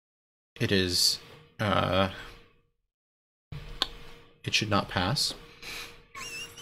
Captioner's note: laughs